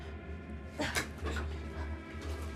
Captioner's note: tense music; Lucy grunts